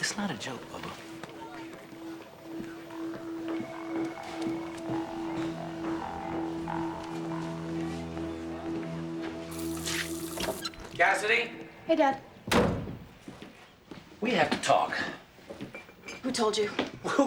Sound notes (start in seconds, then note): 9.5 faucet running; 12.4 door shuts